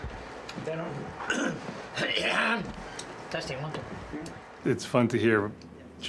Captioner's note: coughs